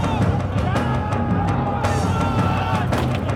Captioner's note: shouting